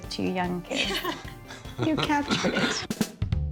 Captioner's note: laughing